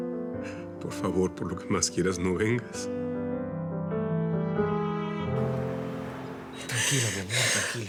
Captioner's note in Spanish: Sollozos